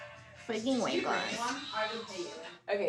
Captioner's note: mocking